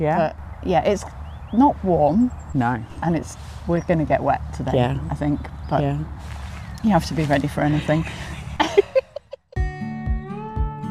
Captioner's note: giggles